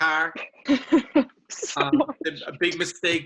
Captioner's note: laughs